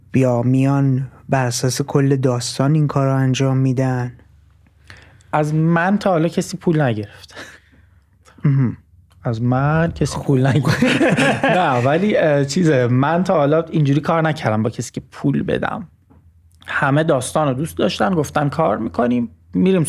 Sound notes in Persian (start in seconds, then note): 10.5 خنده